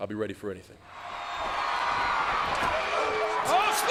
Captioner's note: crowd cheering